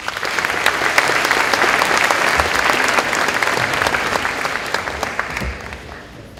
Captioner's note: applause